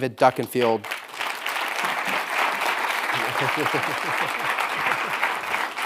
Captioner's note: audience applauding